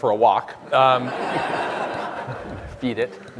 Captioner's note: audience laughing